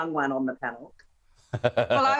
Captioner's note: laughter